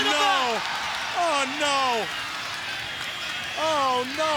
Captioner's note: crowd cheering